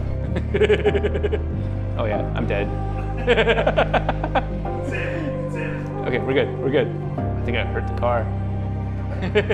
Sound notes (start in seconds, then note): 0.2 giggles; 3.0 laughs; 9.0 laughs